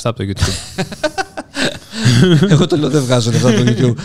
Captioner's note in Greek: Γέλια